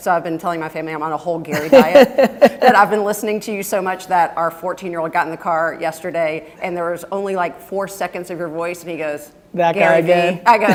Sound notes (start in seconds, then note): 1.6 laughing